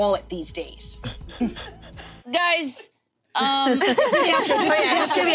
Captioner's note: group laughing